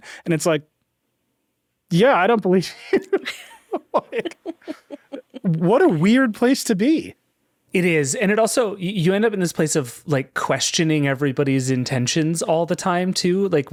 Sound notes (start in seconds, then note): 2.7 laughing